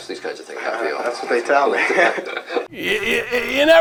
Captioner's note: chuckles